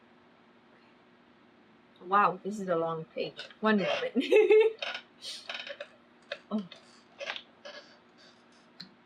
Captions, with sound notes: WOW THIS IS A LONG PAGE ONE MOMENT [LAUGHS]